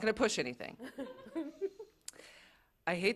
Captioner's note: laughter